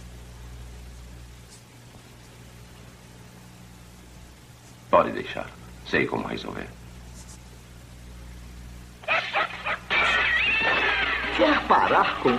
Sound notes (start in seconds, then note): 7.6 crashing; 9.0 barking